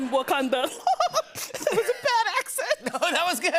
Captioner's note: laughs